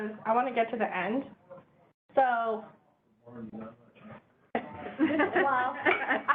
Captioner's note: muttering and laughter